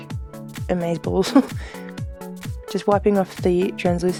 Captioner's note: laughs